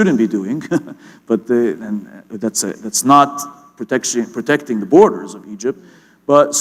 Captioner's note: chuckle